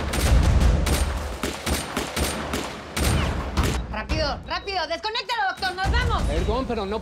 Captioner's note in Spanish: Tiroteo